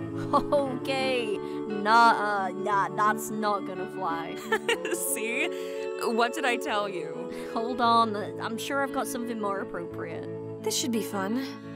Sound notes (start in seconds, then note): 4.4 laughs